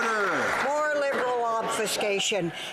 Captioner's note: some Applause